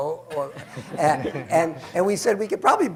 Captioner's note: laughter